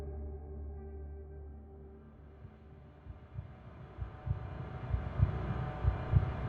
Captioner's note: eerie music; heartbeat pounding